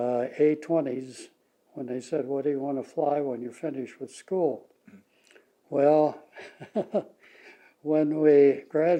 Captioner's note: laughs